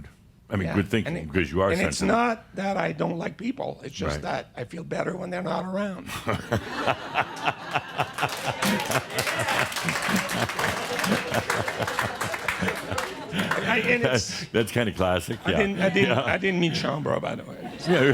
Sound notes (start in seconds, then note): 7.0 lots of laughter and applause; 13.2 Adamus chuckles; 16.9 more chuckles